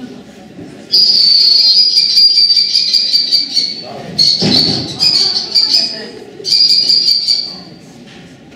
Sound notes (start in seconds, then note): 0.9 kestrel Call; 4.2 microphone Squeal; 4.2 kestrel Call